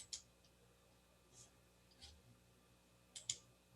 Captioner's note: mouse clicks